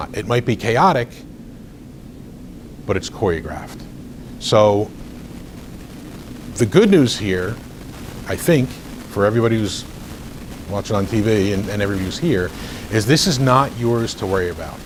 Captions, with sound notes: It might be chaotic, but it's choreographed. So the good news here, I think, (recording crackles) for everybody who's watching on TV and everybody who's here, is this is not yours to worry about.